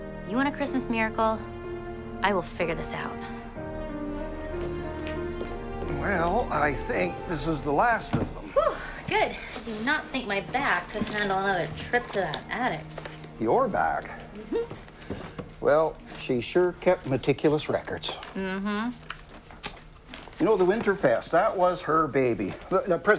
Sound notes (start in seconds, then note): 3.8 light music; 14.3 Cassie chuckles; 18.4 Cassie hums